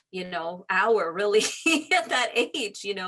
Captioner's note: laughs